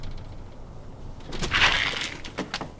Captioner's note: door opens